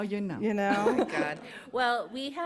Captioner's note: laughter